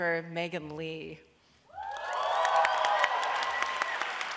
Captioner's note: applause